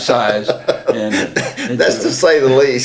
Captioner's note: laughter